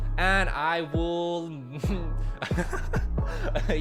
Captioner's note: laughs